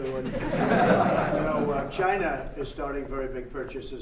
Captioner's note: laughter